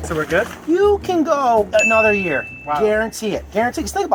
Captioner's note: bell Chiming